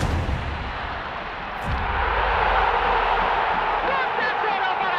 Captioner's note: crowd cheers